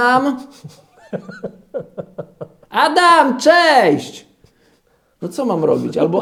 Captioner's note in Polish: śmiech